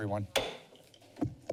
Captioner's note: bangs gavel